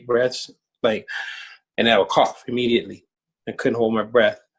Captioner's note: inhales deeply